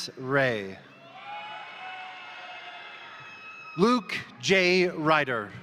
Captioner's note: crowd cheering; crowd applauding